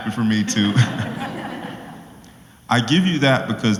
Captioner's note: laugh